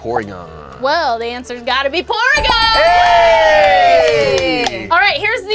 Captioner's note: audience applauds